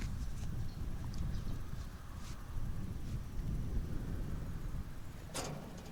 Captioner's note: wind blowing